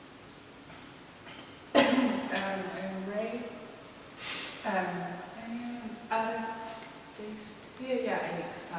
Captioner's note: coughs